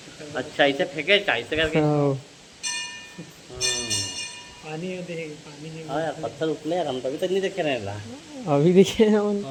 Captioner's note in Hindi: घंटी की आवाज़